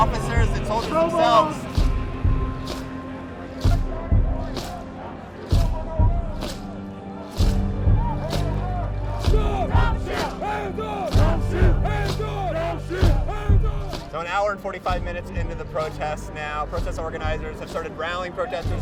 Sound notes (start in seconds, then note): 8.4 chanting